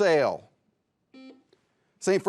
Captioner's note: buzzer beeps